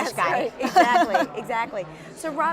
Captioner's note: laughing